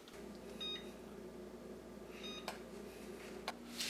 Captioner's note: oven beeps